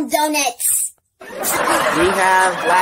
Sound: live Spectators Laughing

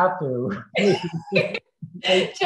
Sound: laughs

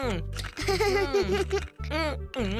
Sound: laughing

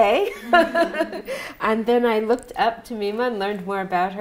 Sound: laughs

